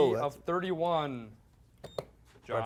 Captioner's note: beep